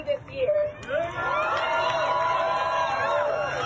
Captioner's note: cheering and applause